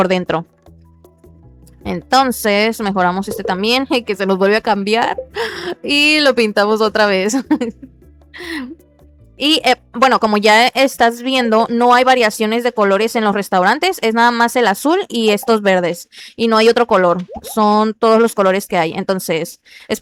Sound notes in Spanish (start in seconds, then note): 7.3 risas